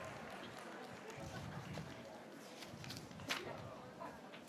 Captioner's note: graduates cheering